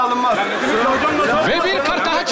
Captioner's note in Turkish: bağrışmalar